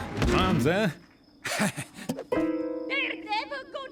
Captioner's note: chuckles